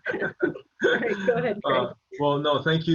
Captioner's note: laughing